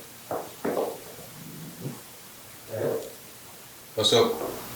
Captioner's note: replay of sound